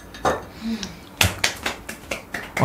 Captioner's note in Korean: 물개 박수치는 소리